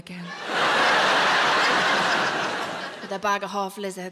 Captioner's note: audience laughs